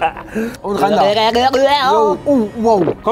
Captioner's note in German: Gluckernde Laute